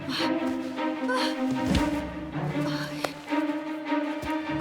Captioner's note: heavy breathing